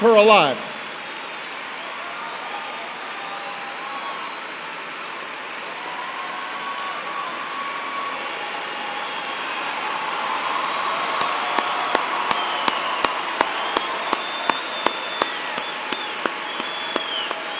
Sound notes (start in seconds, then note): 1.5 applause